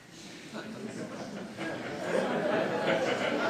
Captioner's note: laughter